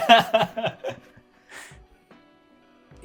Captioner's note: laughing